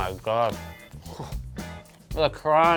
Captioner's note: moans happily